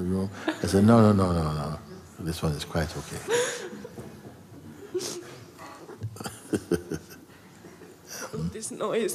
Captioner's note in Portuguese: risos